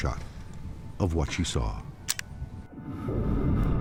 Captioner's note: shutter clicks